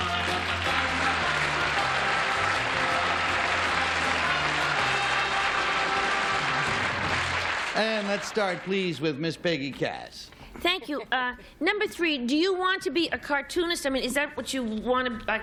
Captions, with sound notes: [theme music] [applause] And let's start, please, with Miss Peggy Cass. - Thank you. Number three, do you want to be a cartoonist? I mean, is that what you want to--